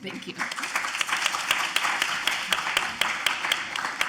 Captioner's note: audience applauds